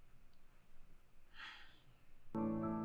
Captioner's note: Abby sighing; gentle music